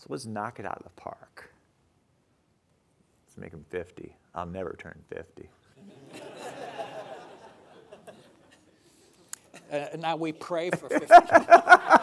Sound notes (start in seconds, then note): 5.8 audience laughing